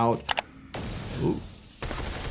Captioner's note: glass exploding; glass shattering